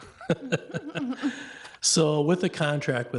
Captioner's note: both laugh